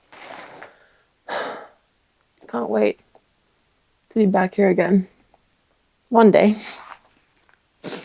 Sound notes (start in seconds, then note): 1.3 exhaling